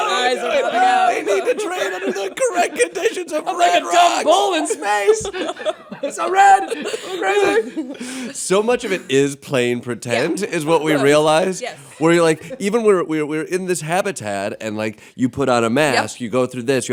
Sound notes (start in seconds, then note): 5.0 laughter